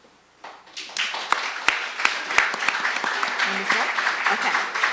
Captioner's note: applause